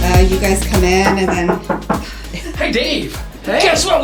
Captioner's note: an uncued knocking on the door